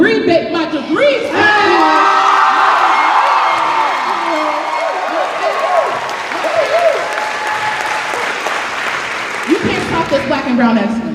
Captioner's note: cheers and applause